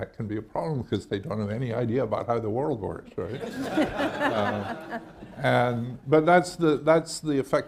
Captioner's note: laughter